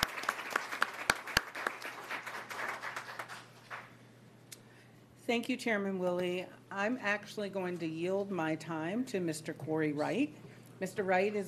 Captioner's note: applause